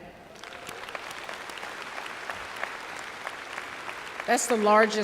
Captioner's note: applause